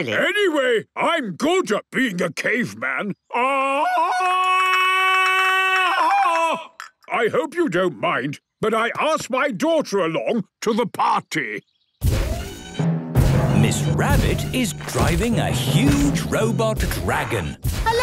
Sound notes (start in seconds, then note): 3.3 Tarzan call; 11.6 thudding, mechanical whirring